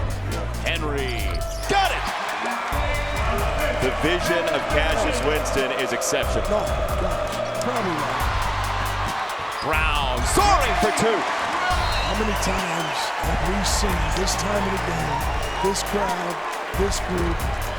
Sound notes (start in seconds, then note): 6.5 cheering; 11.7 cheering